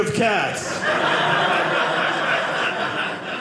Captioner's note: audience laughing